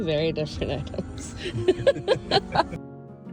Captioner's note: chuckles; chuckle